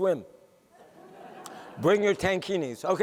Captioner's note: laughter